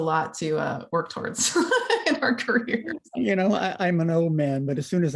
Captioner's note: laughter